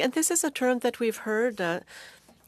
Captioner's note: speaking French